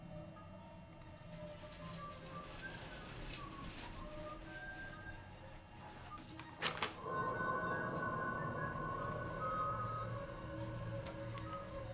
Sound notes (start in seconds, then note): 1.7 orderly whistling; 1.7 wheelchair rattling; 6.4 paper rustling; 7.0 eerie music; 8.7 orderly whistling